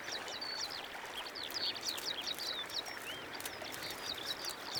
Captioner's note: birds singing